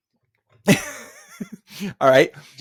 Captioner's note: laughing